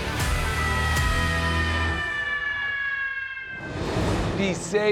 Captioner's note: upbeat rock music; fire engine siren wailing